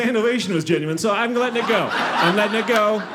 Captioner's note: audience laughing